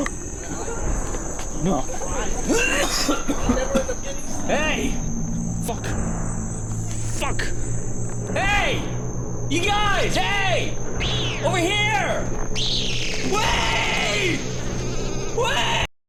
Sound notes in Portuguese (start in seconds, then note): 0.0 Um grupo de pessoas desconhecidas falando; 1.5 NOAH tosse mais ou menos. A conversa continua; 9.6 gritando; 11.0 O SPIDER grita; 12.6 Screeching; 13.3 Gritando